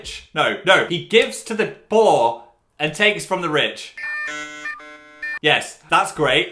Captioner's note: machine noises